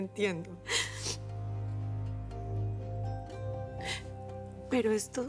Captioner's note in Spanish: sollozos